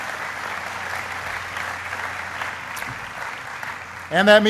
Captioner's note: applause